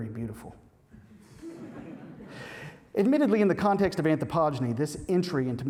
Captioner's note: laughter